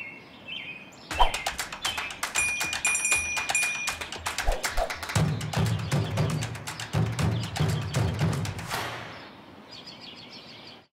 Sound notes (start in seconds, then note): 2.2 bells ringing